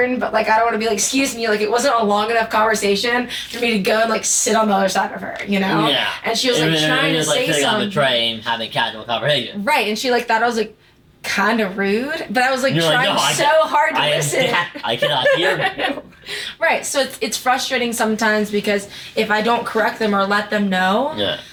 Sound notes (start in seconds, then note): 16.0 laughing